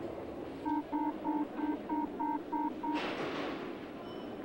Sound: warning signal for train departing

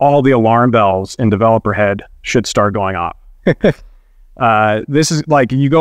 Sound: chuckles

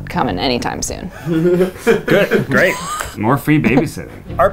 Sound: laughing

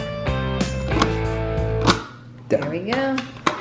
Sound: stamping

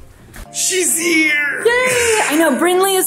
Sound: laughs

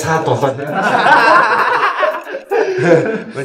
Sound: laughter

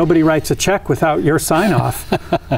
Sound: laughter

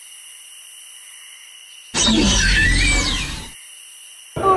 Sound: dino noise

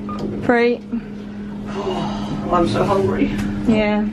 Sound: exhales

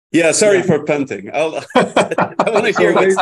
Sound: laughter

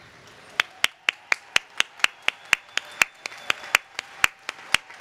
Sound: applause

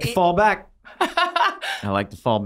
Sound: laughing

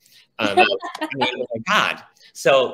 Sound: laughs

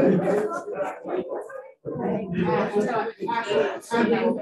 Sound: audience chatter

